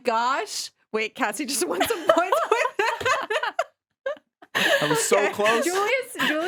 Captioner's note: laughing